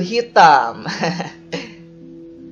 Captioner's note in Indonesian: Laugh